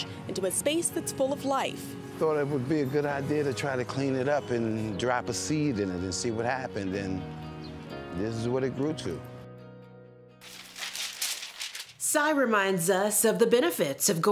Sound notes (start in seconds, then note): 10.4 papers rustling